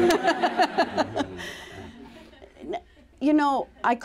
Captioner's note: laughter